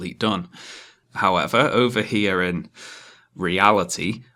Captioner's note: inhales